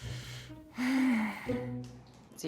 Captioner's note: sigh